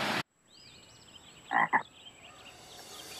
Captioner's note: croak